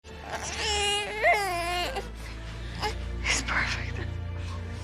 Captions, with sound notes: (baby crying) - He's perfect.